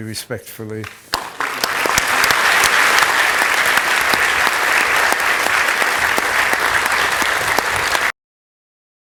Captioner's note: applause